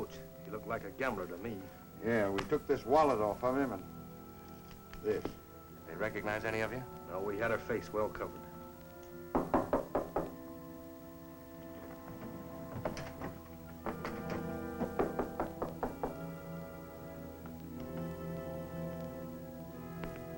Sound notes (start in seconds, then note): 9.3 knocking